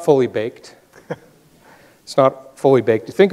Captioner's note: laughs